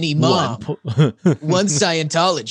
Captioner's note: laughing